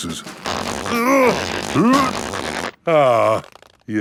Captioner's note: grunting